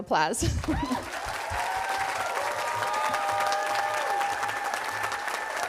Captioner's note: audience applauding and cheering